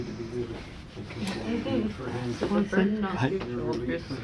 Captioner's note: people Chattering